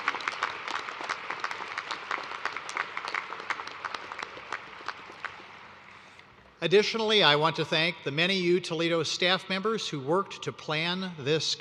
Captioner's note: applause